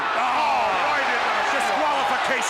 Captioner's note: commentators exclaim